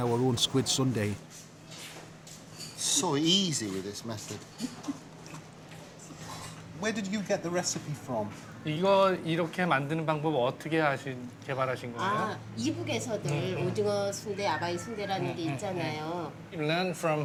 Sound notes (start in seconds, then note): 9.7 speaking Korean